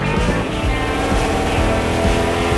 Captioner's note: engine blaring